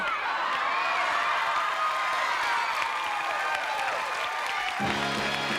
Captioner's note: applause